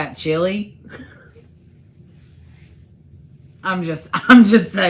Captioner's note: laughs